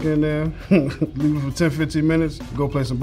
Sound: laughs

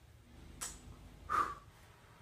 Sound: blows

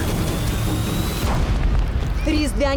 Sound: flames roar

